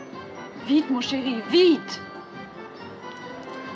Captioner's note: speaking French